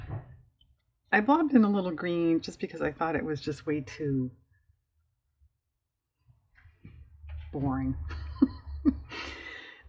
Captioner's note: laughs